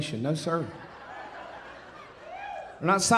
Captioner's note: audience laughing